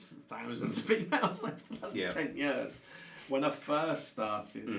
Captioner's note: chuckles